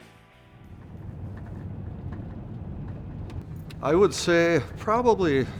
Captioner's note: truck sounds